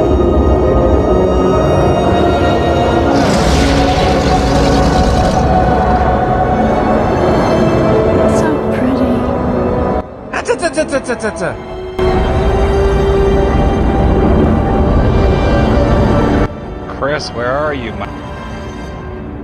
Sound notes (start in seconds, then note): 3.1 electricity crackling; 10.2 muttering frantically